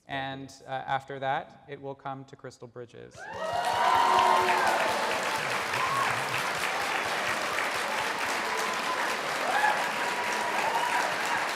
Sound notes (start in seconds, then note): 3.2 audience cheer